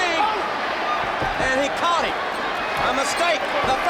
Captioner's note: wrestlers grunting; blows thudding